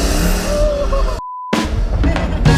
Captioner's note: car engine roaring; ululating; beep; upbeat music